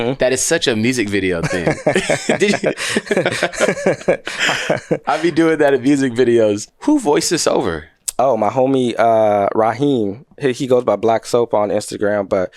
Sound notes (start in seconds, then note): 1.4 both laughing